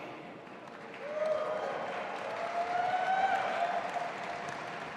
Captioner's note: audience applauding